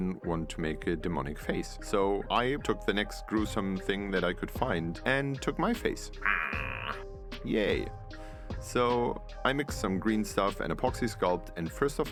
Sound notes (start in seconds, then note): 6.3 rawr noise